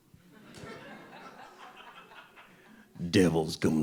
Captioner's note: audience laughing